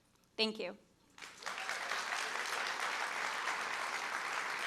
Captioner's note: crowd cheering